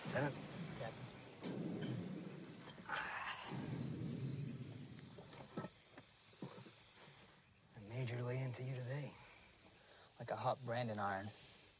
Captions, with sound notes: CAPT. MC MURTRY:Lieutenant. LT. LEAK:Captain. [INHALES, SIGHS] The Major lay into you today? Like a hot brandin' iron.